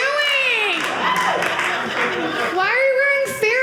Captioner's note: audience laughing